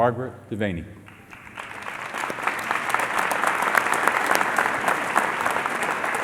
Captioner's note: applause